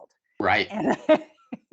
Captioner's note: laughing